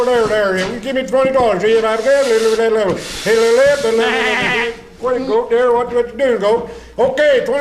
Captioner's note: auctioneer Chanting